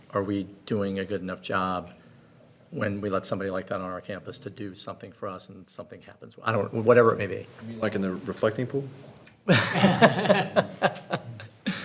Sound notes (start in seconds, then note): 9.5 laughs